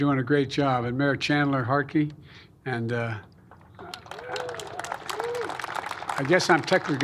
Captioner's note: applause